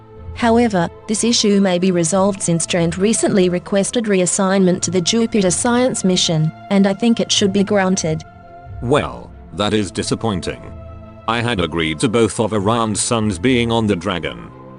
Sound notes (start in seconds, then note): none